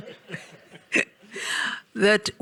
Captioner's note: audience laughing